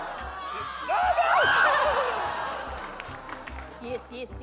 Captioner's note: frustrated scream; shrieks; giggles